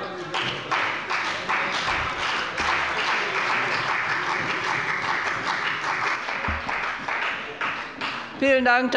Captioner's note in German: Beifall bei dem BÜNDNIS 90/DIE GRÜNEN und der CDU